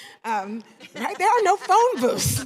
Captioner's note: laughter